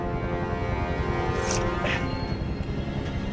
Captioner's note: gasps; knife slices